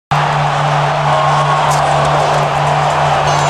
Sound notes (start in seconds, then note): 0.1 cheering